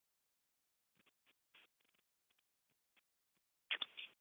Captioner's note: silence